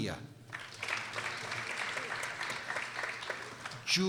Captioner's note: people applauding